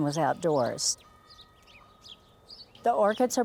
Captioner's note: birds